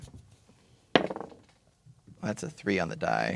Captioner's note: dice rolling